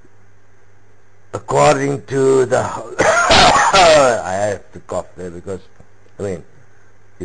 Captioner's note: cough